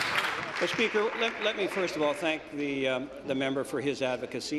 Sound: applause

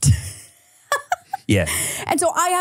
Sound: laughs

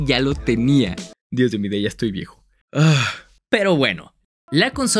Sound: sighs

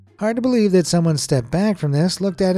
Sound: none

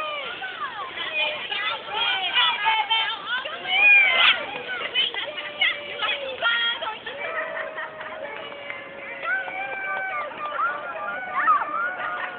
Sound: crowd cheering

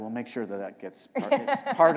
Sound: laughter

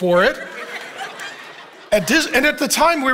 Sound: congregation laughing

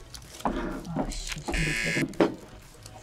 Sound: buzzer

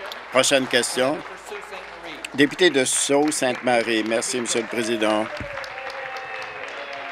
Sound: applause

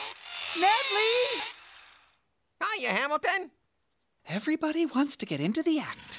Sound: drilling noise

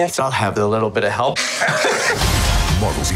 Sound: laughing

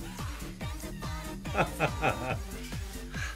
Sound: laughs

